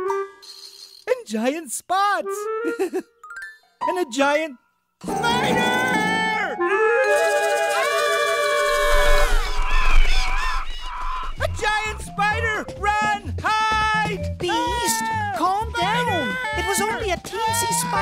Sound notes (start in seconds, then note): 2.6 giggle; 9.3 squawking of birds